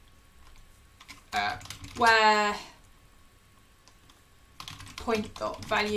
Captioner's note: keyboard clicking